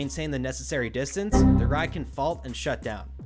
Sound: Windows error sound

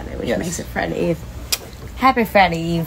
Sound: kiss

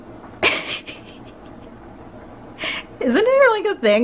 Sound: laughing

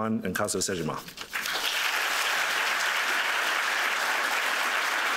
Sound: applause

